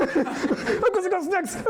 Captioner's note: laughter